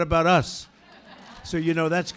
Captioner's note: laughter